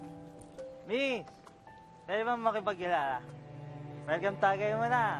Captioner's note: slurred voice